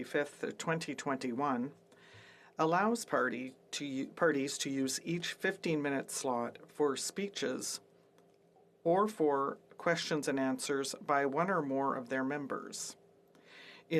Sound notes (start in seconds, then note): 2.3 speaking French